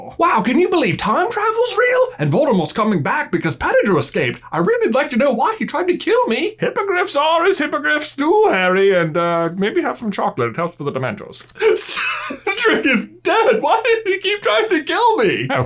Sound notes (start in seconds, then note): 11.5 sobbing